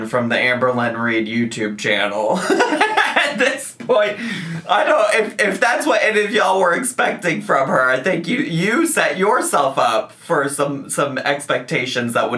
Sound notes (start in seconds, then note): 2.3 man laughing